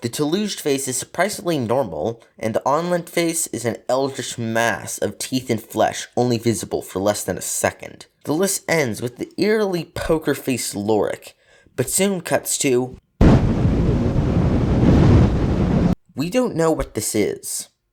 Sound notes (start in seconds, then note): 13.2 Static